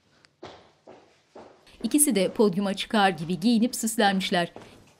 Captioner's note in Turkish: Ayak sesleri